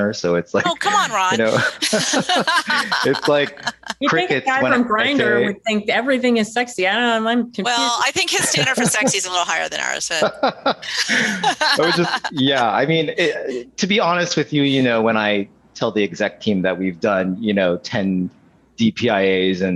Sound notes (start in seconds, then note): 2.0 laughing; 10.3 laughing